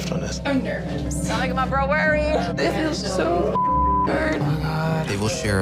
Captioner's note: beep